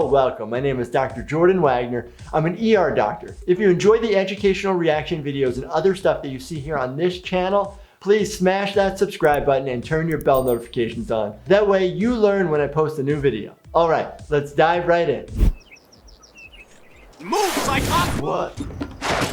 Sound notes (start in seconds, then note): 15.4 video whooshes; 15.4 birds singing; 19.1 wheelchair whooshes